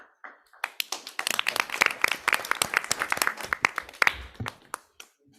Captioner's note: audience clapping